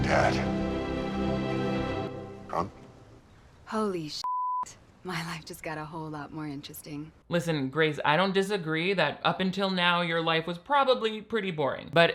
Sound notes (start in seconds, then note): 4.2 beep